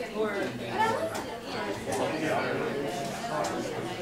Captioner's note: none